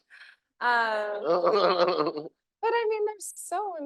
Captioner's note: laughing; audience laughing